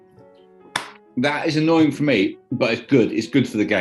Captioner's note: claps